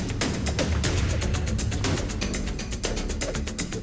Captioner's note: air whipping